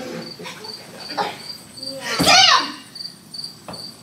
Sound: audience laughing; crickets chirping

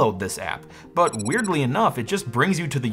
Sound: tech beeping

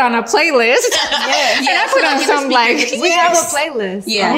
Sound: ladies laughing

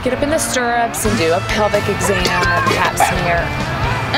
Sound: man gags

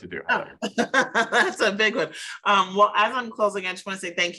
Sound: laughs

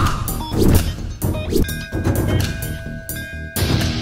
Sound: temple bell rings

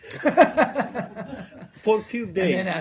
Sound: laughter

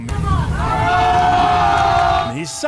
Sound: crowd yells

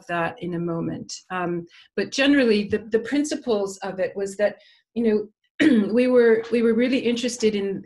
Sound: cough

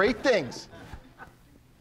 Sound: audience laughing

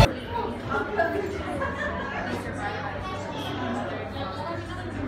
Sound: people laughing

